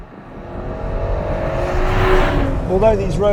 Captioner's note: revving continues